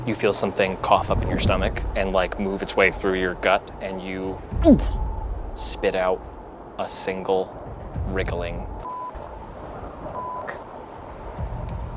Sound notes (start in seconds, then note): 4.6 gags; 8.8 beep